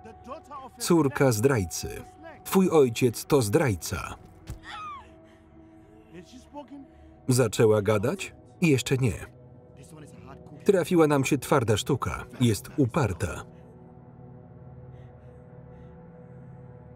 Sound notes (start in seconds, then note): 4.6 wailing; 4.9 thudding